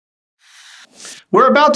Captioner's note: air whooshing